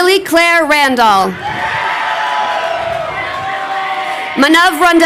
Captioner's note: crowd cheering